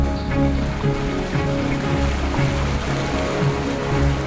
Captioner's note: water flowing